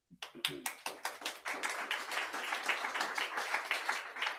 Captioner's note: audience applauding